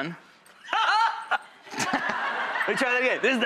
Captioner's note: laughs